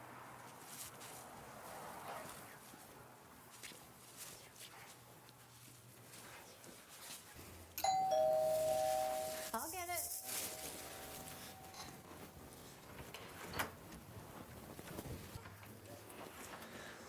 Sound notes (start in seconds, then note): 7.8 door bells rings